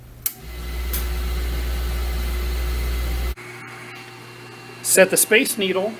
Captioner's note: electric motor spins